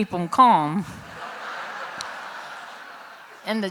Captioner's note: laughter